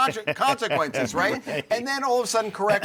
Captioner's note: all chuckle